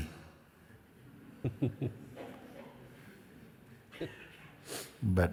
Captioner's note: questioner laughs